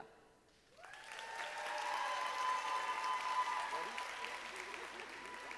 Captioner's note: audience applauding